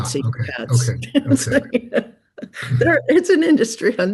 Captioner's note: chuckles